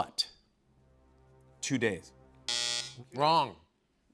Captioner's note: buzzer